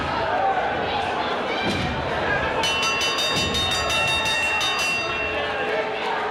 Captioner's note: bell ringing; crowd cheering